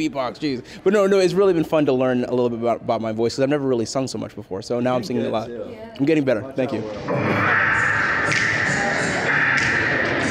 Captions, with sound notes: You beatbox, jeez." But no, it's really been fun to learn a little bit about my voice because I've never really sung so much before so now I'm singing a lot. I'm getting better, thank you. (snapping)